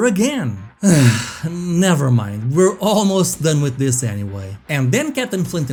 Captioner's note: sighs